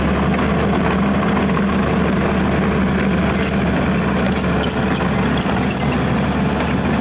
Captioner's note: engine Rev